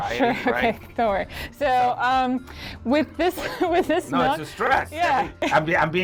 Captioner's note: laughs